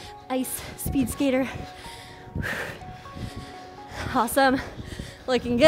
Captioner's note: breathes heavily